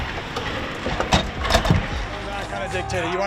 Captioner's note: hockey stick hitting floor